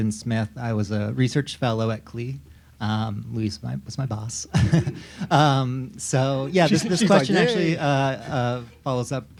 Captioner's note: laughs